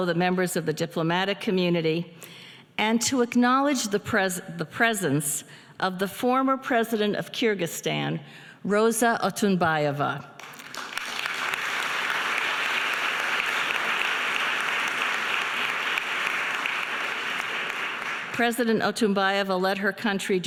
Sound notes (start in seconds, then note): 10.4 audience applauding